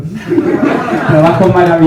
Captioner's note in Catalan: rialles